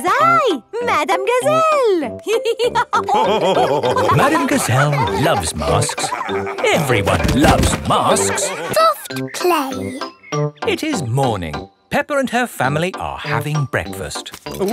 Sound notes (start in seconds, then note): 2.7 all laughing